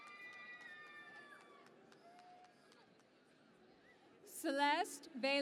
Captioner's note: cheering and Applause